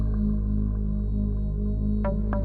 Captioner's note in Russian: none